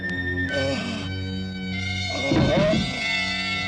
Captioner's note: groaning